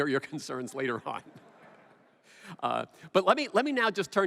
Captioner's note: laughter